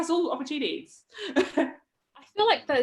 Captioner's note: chuckles